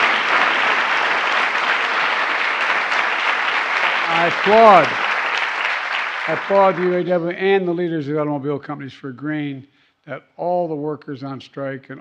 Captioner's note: applause